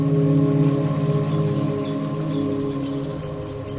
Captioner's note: water flowing, birds chirping